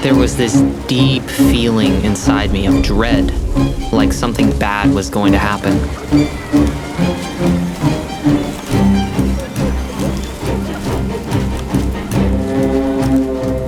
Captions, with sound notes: There was this deep feeling inside me of dread, like something bad was going to happen. [suspenseful music] [people laughing]